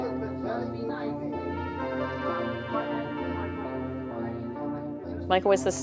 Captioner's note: retro music; chattering